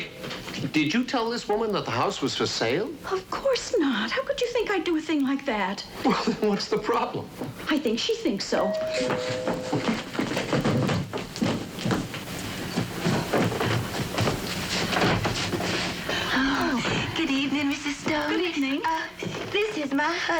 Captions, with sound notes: Honey, did you tell this woman that the house was for sale? Of course not. How could you think I'd do a thing like that? What's the problem? I think she thinks so. (DOORBELL RINGING) Oh. Good evening, Mrs. Stone. Good evening. This is my husband, Bull.